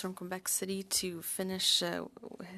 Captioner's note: speaking French